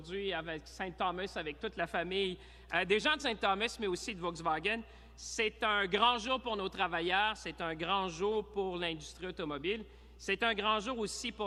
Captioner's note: speaking in french